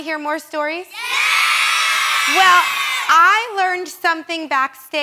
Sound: cheering

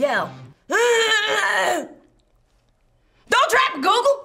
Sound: yelling

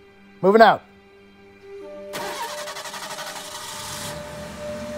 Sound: engine starts

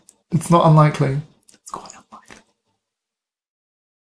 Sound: whisper

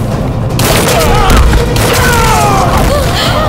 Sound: gunshot

